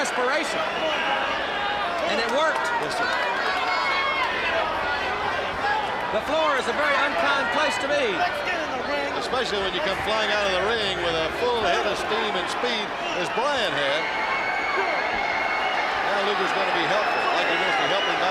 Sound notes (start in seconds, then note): 4.4 crowd chatter; 9.2 crowd chatter; 14.9 crowd chatter